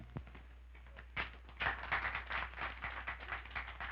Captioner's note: smattering of applause